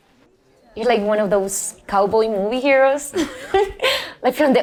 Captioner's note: laughs